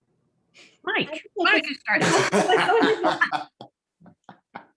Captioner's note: laughs